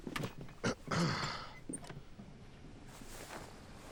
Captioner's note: clearing throat